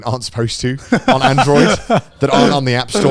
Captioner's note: laughing